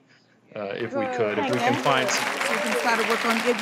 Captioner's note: applause